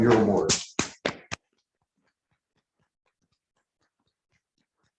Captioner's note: congregation clapping